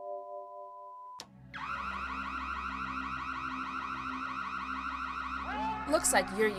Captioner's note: alarm